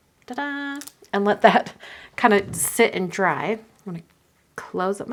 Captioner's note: hums